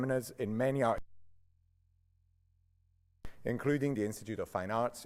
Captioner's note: sound cuts out